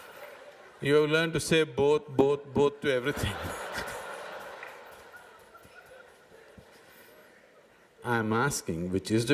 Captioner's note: laughter; 笑聲; laughter; 笑聲